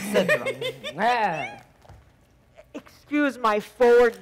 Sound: Zina lightly giggling

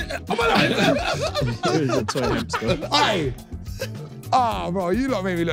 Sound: everyone laughing

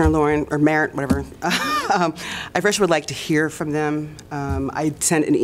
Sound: laughter

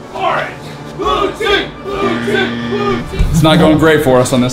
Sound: collective cheering

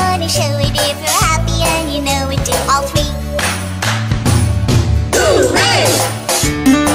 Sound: clap clap stomp stomp Hoo-Ray

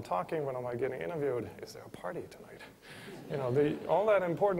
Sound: laughter

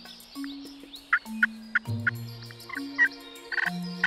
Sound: mock hunting calls; turkey calls

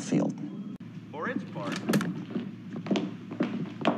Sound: newscast playing on TV

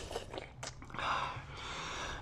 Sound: slurp; gulp

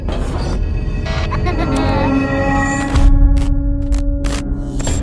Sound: eerie music; baby laughs

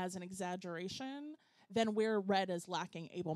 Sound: none

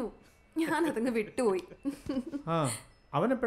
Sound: laugh

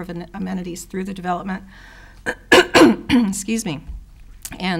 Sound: clearing throat

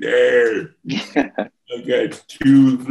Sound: chuckles

